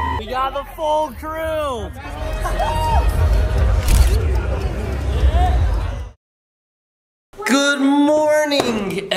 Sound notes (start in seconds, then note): 3.8 camera clicks